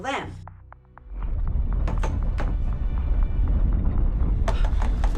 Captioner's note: house trembling